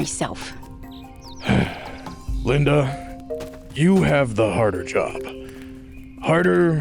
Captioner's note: sighs